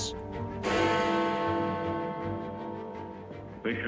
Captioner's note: bell tolls